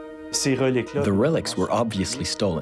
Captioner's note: speaking in foreign language